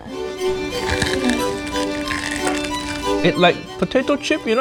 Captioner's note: fish crunching